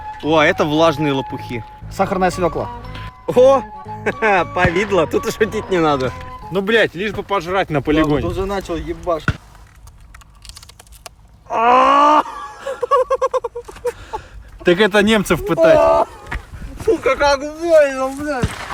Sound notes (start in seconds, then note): 9.8 loud crunch; 11.5 scream; 11.6 hyena laughing